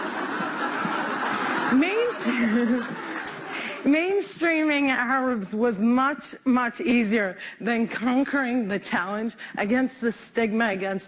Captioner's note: laughter